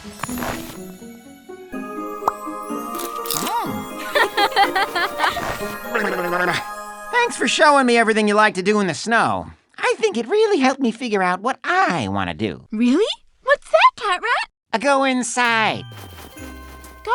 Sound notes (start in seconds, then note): 1.7 chuckling